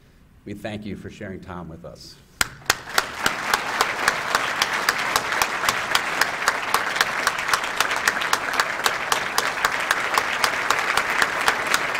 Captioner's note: applause